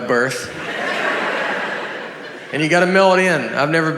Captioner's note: audience laughs